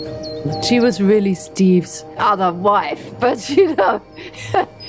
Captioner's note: laughs